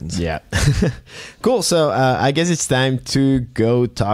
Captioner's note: laughs